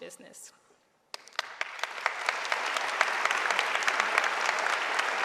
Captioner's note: audience applauding